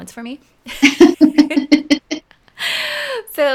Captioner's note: laughing